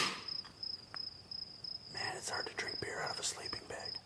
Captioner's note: beer can opening with a swoosh; whispering